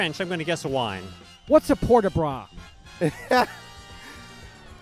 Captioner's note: laughs